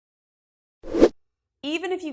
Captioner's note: graphic whooshes